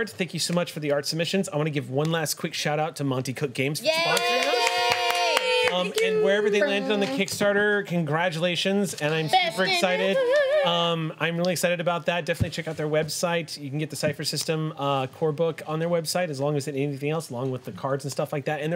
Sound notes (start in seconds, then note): 3.8 group cheers; 3.8 overlapping chatter